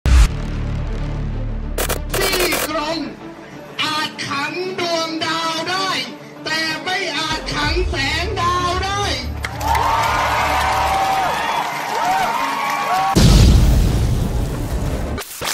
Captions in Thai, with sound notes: ี่กรงอาจขังดวงดาวได้แต่ไม่อาจขังแสงดาว [ปรบมือ]